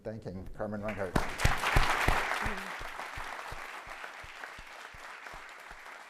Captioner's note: applause